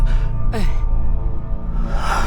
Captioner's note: sigh